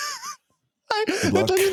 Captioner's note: laughing